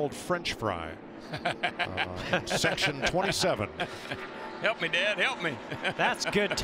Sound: laughs

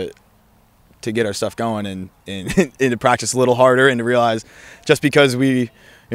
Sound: laughs

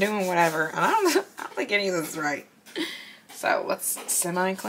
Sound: chuckles

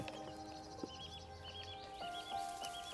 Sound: birds chirping

